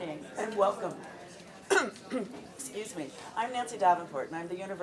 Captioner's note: cough